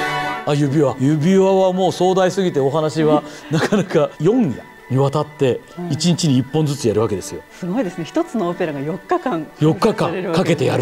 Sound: laughs

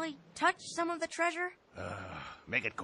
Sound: sighs

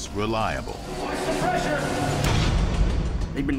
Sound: blasts

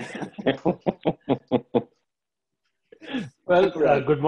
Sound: laughter

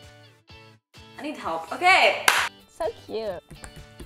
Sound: claps

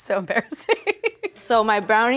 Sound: laughs

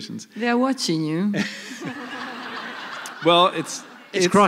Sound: laughter

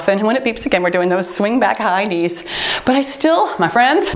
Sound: timer beeps

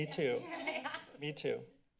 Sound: council laughs

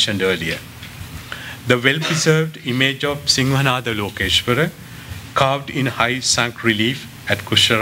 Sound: non-english

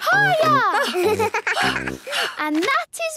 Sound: giggles; panting

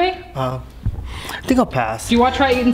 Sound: sniffs

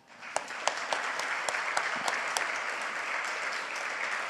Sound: audience applauds

